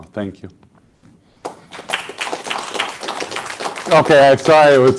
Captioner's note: applause